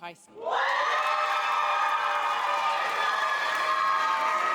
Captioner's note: audience cheers